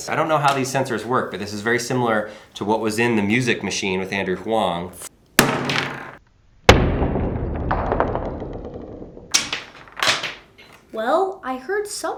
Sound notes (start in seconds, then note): 5.4 hatchet smacking